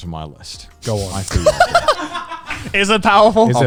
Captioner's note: everyone laughs